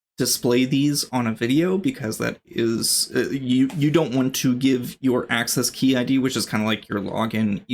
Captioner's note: uh